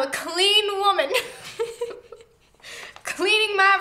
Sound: laughs

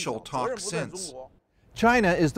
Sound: speaking alternate language

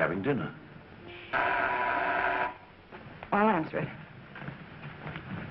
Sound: door bell buzzing

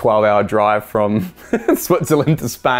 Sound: laughter

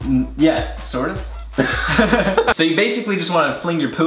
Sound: brothers laugh loudly

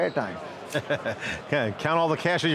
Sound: laughing

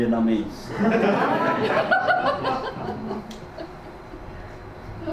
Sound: audience laughs

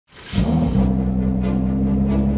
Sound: engine roars

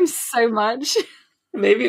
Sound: laughs

